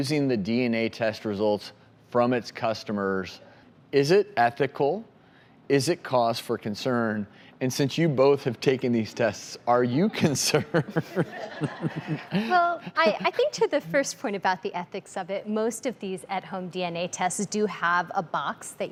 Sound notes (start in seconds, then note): 10.6 audience laughs; 10.7 laughs